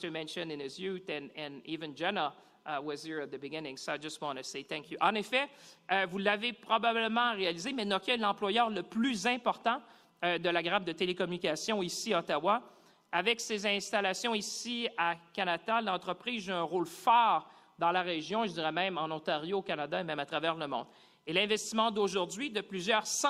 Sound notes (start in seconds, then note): 5.7 speaking French